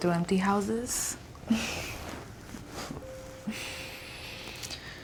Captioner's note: both laughing